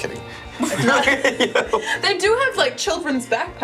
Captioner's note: laughs